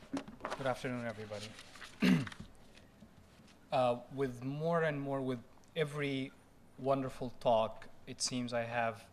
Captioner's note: clears throat